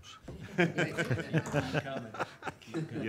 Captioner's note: audience laughing